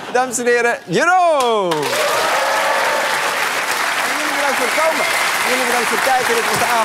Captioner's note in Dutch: applaus en gejuich